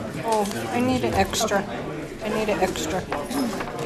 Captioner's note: woman's Voice